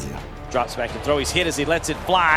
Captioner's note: voiceover